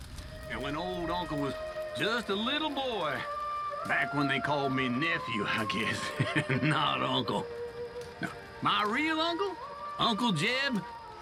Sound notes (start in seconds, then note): 5.6 laughs